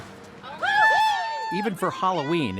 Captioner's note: cheering and screaming